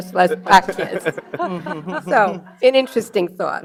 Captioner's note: audience laughing